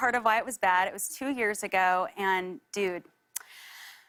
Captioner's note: breathes deeply